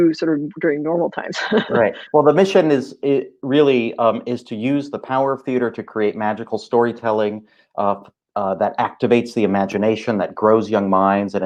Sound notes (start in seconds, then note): 1.3 laughing